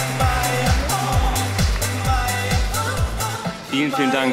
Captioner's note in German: Applaus